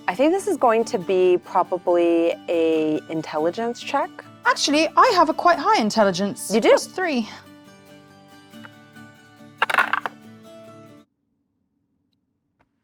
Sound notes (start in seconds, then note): 9.6 dice rattling